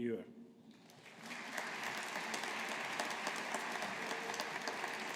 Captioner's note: audience applauding